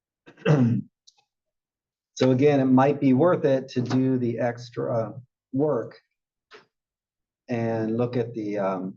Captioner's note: cough